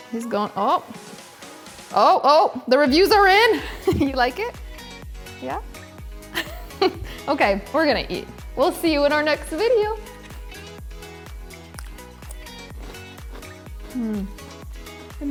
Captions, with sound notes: He's goin', oh oh. The reviews are in. You like it? Yeah? (laughing) Okay, we're gonna eat. We'll see you in our next video. (chewing) (upbeat music)